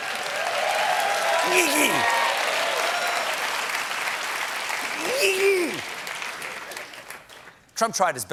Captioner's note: cheers and applause